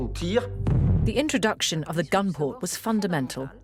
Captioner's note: voiceover